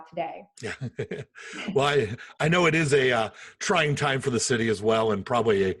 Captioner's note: laughing